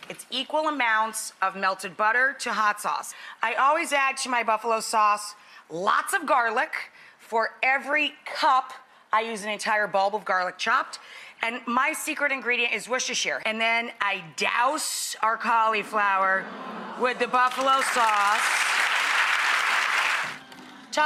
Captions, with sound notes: It's equal amounts of melted butter to hot sauce. I always add to my buffalo sauce lots of garlic. For every cup, I use an entire bulb of garlic, chopped, and my secret ingredient is Worcestershire, and then I douse our cauliflower (audience awes) with the buffalo sauce. (audience applauds)